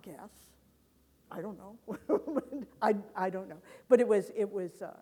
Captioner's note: laughs